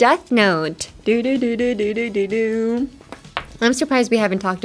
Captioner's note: humming